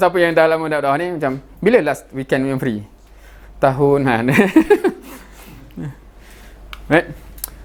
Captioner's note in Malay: ketawa